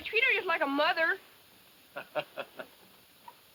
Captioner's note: laughs